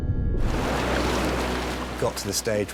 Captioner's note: intense music; water whooshing